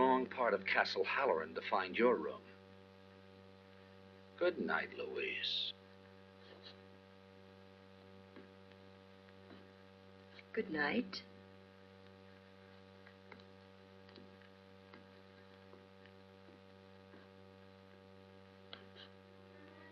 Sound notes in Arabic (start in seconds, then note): 14.1 خطوات